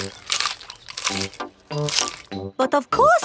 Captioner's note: munching